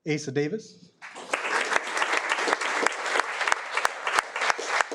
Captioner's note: audience applauding